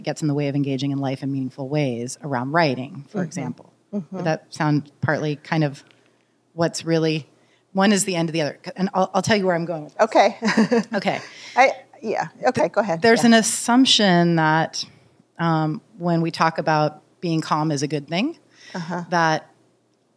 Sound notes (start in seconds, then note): 10.4 chuckles